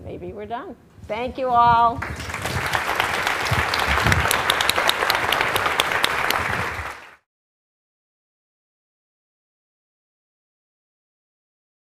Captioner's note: applause